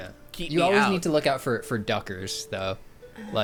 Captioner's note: pat